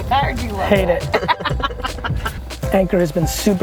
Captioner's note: woman laughing